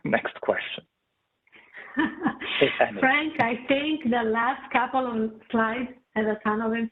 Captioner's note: chuckles